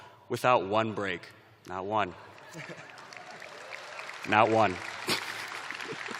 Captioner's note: applause; chuckling